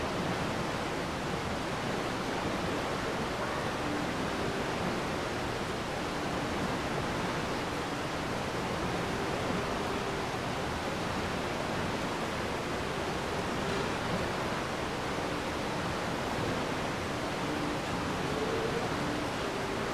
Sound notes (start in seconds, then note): 10.8 water rushing